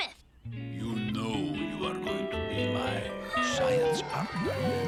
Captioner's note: deep voice; Lizbeth sighing dreamily